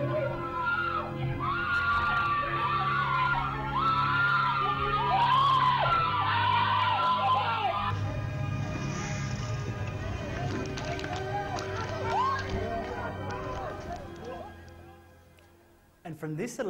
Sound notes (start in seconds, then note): 0.0 sounds of violence, screaming and rioting, background orchestral music; 1.3 sirens and screaming